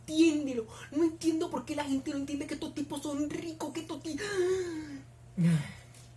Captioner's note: breaths, jajja